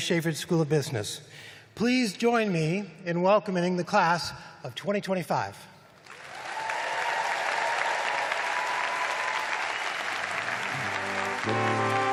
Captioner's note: applause